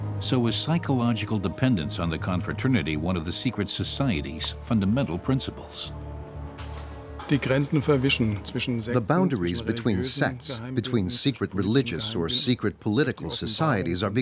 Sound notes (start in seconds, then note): 7.2 speaking German